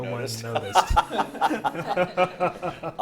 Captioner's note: laughs